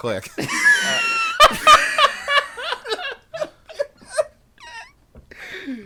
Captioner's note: all laugh